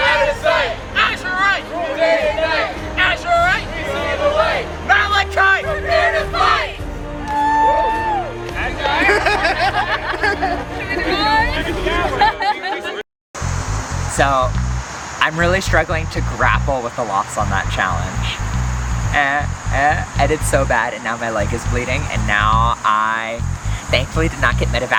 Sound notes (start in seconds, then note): 8.4 looks confused and golf claps